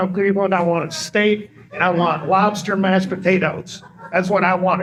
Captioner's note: laughter